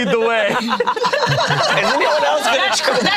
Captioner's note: group laughs